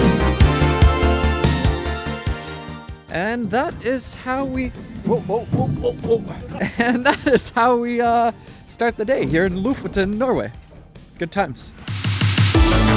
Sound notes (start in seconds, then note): 6.3 laughing; 11.8 upbeat music